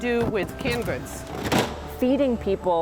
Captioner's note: cans thudding